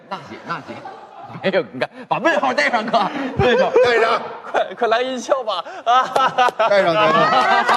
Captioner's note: laughter and applause